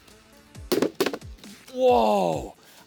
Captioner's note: balloons pop